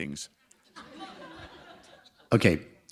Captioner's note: laughter